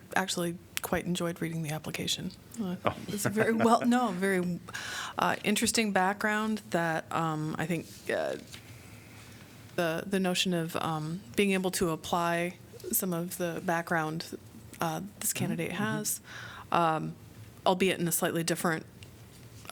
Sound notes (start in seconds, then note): 3.1 laughter